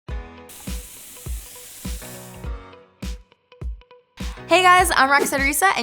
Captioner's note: upbeat music; water fizzing